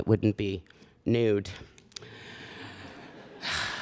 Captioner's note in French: Rires